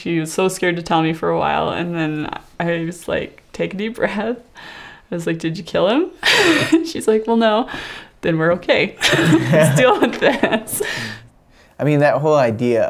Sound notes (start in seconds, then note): 6.7 chuckles; 9.0 chuckling; 9.0 laughs